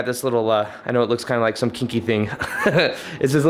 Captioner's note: laughs